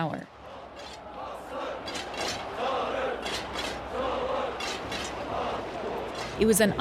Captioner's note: soundbite of archived recording; chanting in Korean